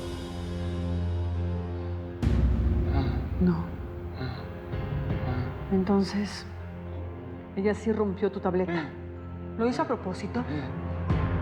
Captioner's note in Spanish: Sonidos guturales